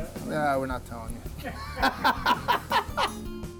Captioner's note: laughs